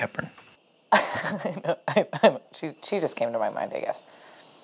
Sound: laughs

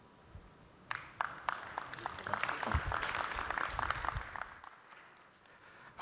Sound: applause

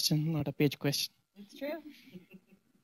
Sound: laughter

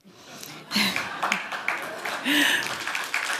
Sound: applause

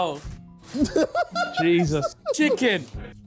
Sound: laughing

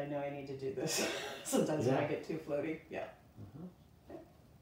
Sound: laughs

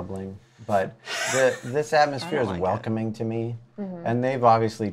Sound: laughs

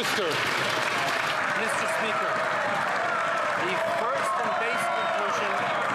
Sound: some Applause

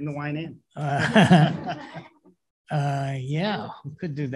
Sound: laughter

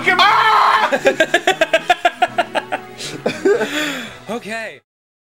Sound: constantly laugh

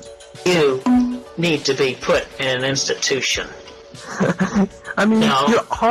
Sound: laughter

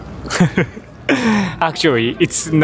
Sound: chuckles

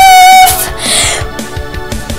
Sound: deep breath

